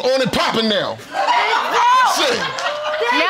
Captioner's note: audience laughing